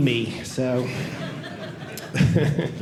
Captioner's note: audience laughing